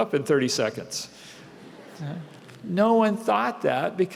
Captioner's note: laughter